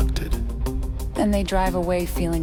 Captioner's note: ufo hum